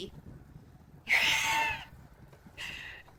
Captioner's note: wheezes